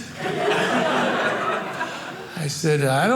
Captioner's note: audience laughing